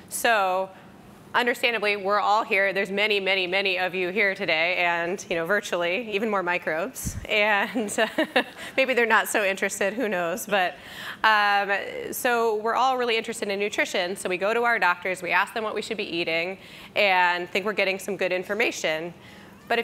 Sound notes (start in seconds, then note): 8.1 laughs